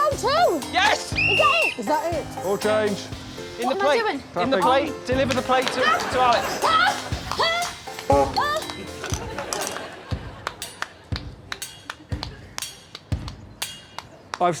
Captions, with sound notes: -Found one? -Whoo, I've found two! -Yes! -[blows whistle] -Is that it? -All change. -What am I doing? -In the plate. In the plate. Deliver the plate to, to Alex. -[grunts and groans] -[sounds horn]